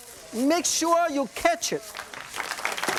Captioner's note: audience applauds